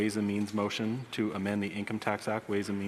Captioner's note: speaking French